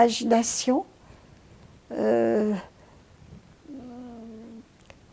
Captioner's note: pauses 6 seconds